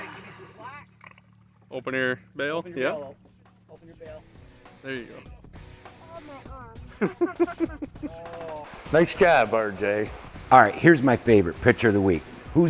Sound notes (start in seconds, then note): 6.9 laughter